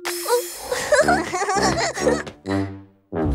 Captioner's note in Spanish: Risas